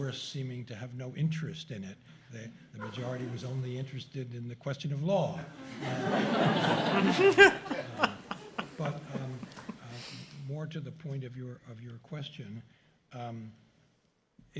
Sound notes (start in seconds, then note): 5.5 laughter